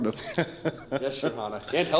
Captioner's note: laughter